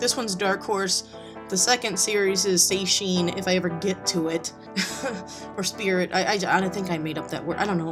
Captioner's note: laughs